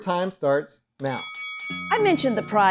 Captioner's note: bell ringing